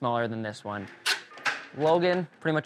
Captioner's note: paper rips